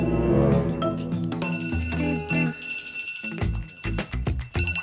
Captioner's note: iPhone alarm